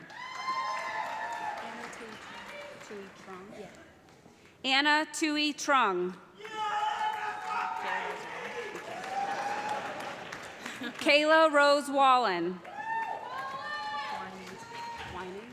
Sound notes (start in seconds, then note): 0.0 cheers and applause; 6.2 man shouting; 10.5 audience laughs